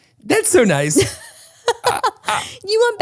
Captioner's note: laughs